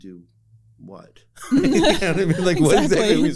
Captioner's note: laughter